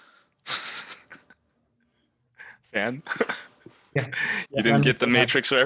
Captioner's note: laughs